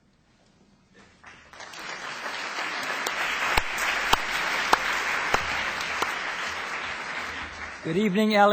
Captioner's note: applause